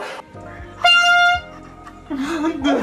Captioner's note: air horn sounds; Kay laughs